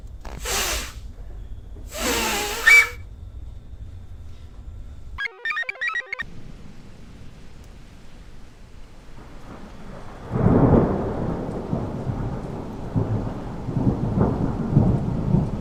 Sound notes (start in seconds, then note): 0.3 Patient #4 farts; 1.8 Patient #4 whistles; 5.2 computer chirps; 6.4 rain patters; 9.0 thunder rumbles; 10.0 thunder crashes